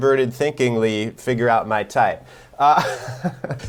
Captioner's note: chuckles